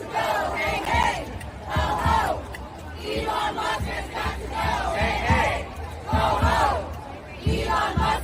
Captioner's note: chanting